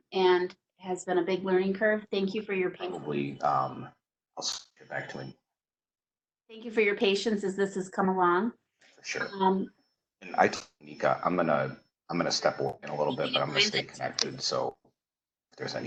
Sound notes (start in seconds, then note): 2.8 murmurs; 3.3 bold Voice; 9.2 bold Voice; 10.2 murmurs